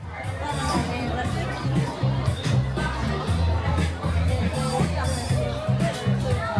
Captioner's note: lively music; people chattering